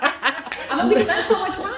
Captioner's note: laughter